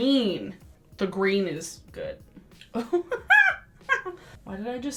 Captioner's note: laughs